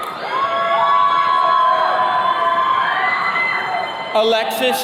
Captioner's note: attendees cheering